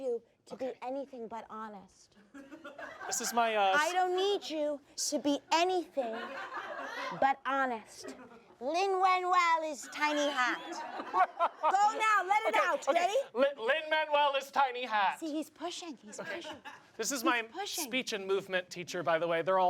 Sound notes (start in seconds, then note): 2.4 audience laughs; 9.9 audience laughs